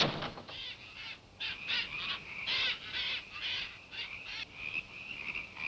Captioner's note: frogs and insects chirping